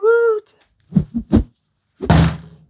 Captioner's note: whoosh; whack